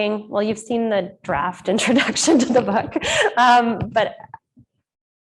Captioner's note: laughing